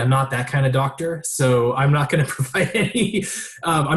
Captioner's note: laughing